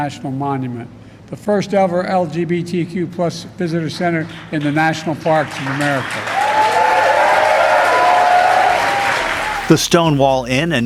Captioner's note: applause